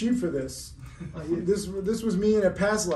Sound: laughing

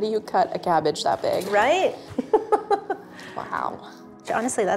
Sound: laughs

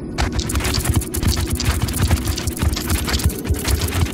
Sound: scorpions scurry

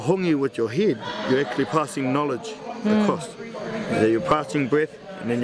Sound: voiceover

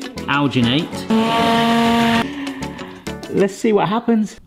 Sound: blender whirring

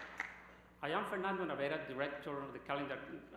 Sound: applause

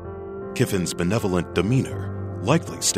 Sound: voiceover

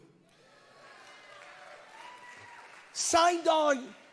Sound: congregation applauding

